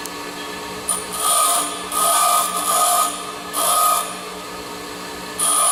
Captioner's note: metal buzzing against grinder